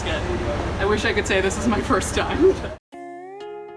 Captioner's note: people murmuring; laughs; calm Hawaiian music